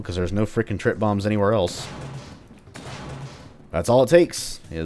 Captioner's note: vents smash